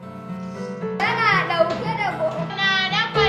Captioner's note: non-english speech